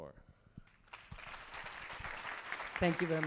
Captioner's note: applause